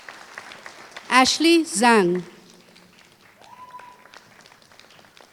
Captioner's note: applause